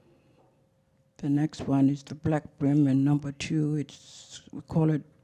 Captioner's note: speaks foreign language